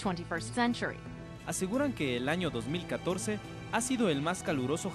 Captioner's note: speaking in foreign language